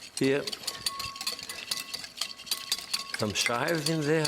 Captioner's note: whisk clanks